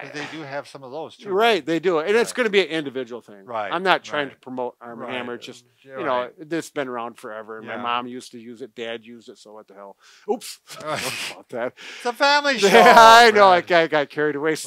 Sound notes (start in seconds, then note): 12.5 laughs